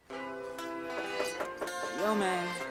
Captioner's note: knuckles rapping on door